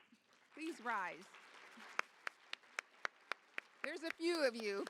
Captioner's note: applause